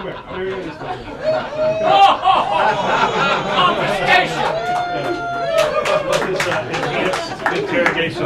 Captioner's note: laughter and applause